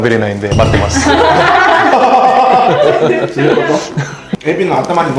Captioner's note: laughs